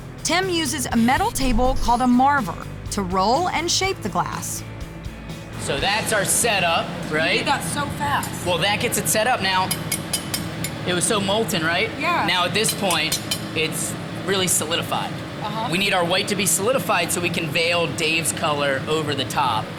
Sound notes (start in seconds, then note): 10.2 clanging